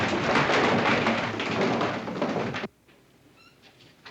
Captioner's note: hat boxes clatter to floor